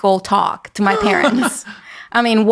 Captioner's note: laughing